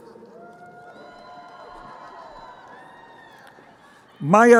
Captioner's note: crowd cheering